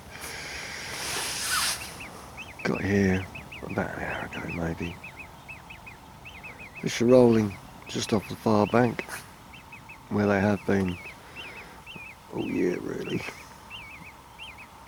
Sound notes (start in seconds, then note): 12.4 laughs